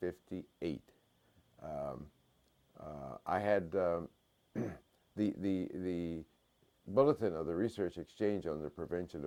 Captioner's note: cough